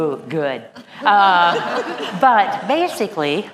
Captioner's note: laughter